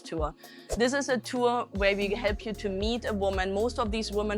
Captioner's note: Latin